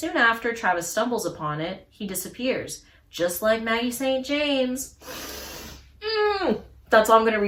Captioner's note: sharp inhale